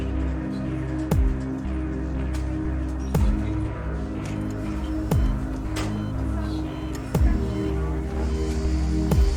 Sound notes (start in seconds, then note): 6.3 beeping